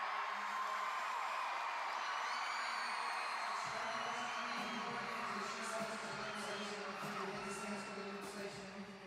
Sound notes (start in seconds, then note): 0.6 cheering continues